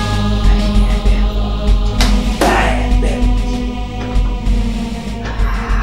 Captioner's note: grumbles and swears